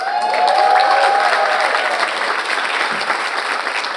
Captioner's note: audience applauds